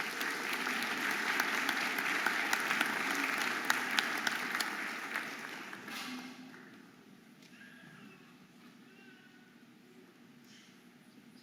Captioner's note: audience applauding